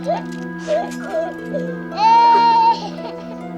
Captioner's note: andrea keeps crying